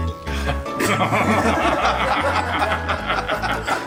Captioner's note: laughing